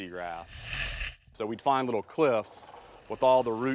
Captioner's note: scraping